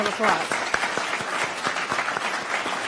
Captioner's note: applause